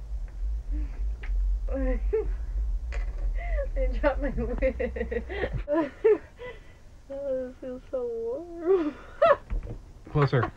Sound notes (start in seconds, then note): 1.7 Alexie laughs; 5.8 laughing; 9.5 laughing